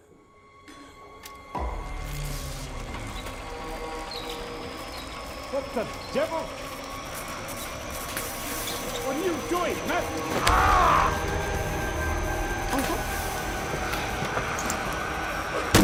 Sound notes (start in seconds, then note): 2.5 electricity crackling; 2.5 ominous music; 7.1 electricity crackling; 7.1 ominous music; 10.4 Frederick screams; 12.5 electricity crackling; 12.5 tense music